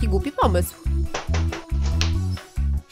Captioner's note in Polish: pukanie do drzwi